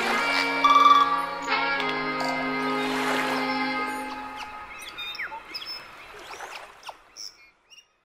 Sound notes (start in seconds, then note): 0.0 exotic music; 4.8 birds chirping